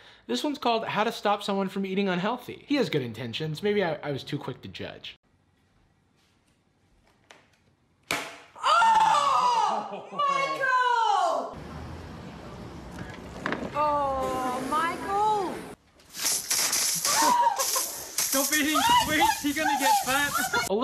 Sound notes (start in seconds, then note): 8.6 screams; 16.0 water spraying; 17.0 woman screams